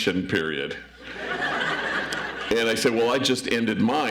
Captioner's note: audience laughs